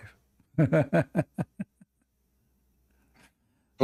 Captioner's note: Ketawa